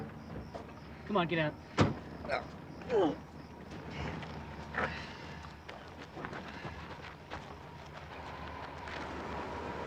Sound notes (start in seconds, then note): 2.8 grunts